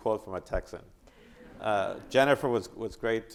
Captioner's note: audience applauding